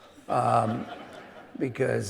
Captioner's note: audience laughing